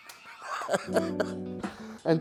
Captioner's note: laughs